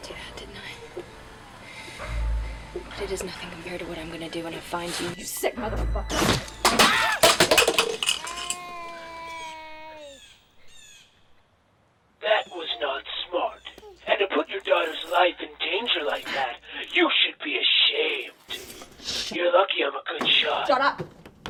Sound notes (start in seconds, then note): 7.1 gunshots; 9.0 baby crying